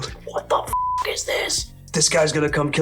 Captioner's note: beep